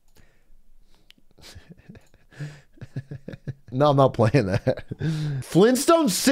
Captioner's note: laughs